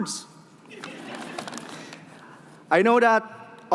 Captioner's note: laughing